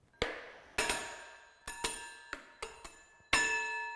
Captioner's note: metal clanging